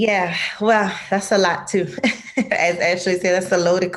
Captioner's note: laughs